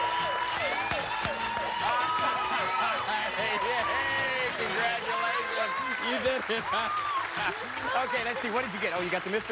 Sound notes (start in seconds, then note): 1.9 laughing